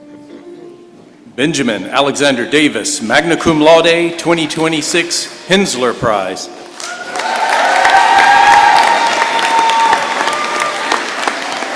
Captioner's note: applause